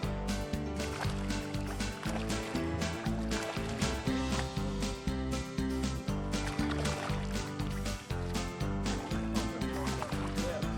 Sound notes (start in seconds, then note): 0.0 water splashing; 1.7 upbeat music; 3.1 water splashing; 7.9 upbeat music